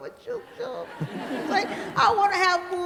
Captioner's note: everybody laughs